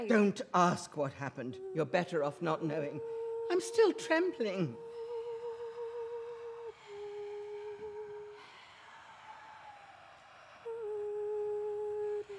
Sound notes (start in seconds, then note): 3.4 bassia starts to hum wedding song; 8.3 voices whisper "murder" & "bride"